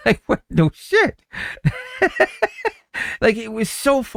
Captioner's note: laughs